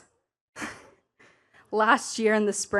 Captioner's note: chuckles